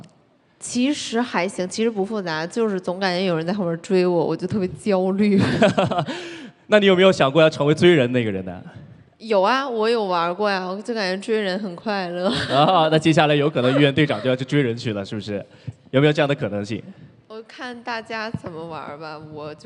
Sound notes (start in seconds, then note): 12.3 chuckles; 13.5 laughs